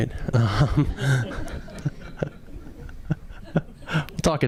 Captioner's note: audience laughing